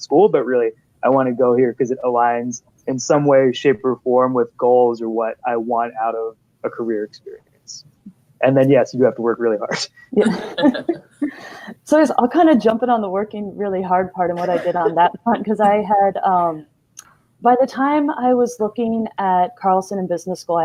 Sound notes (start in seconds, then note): 10.1 laughing